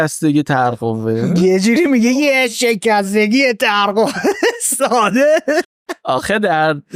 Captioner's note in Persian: خنده